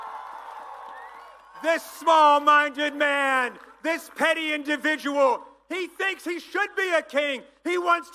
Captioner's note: applause